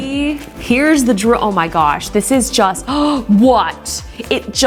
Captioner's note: gasps